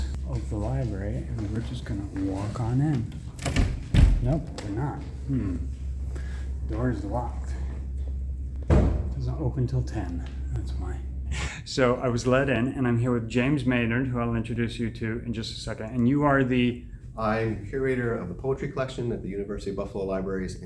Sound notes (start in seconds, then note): 2.9 turning door knob; 8.7 bang; 11.4 chuckles